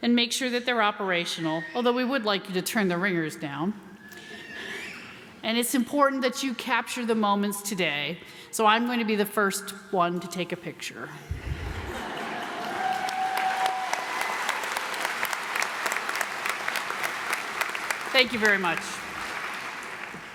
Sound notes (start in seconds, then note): 12.4 applause